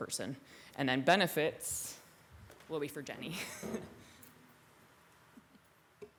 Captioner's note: laughs